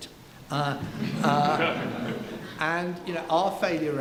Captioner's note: laughing